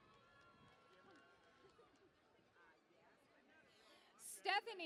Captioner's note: cheering and Applause